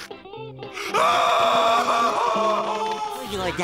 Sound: screaming

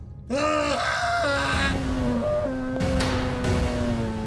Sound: muffled grunting; muffled scream

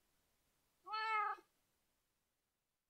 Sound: meow

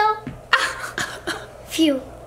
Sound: mom and dad laugh

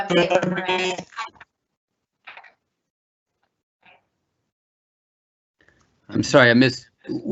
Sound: indistinct chatter

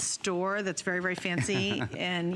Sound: laughter

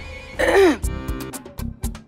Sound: clears throat

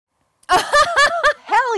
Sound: woman laughs

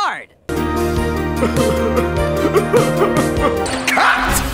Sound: sobbing

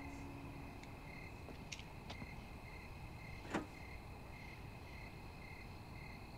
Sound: music fades; insects continue

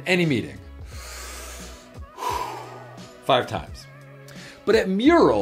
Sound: breathes deeply

